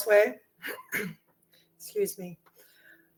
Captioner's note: clears throat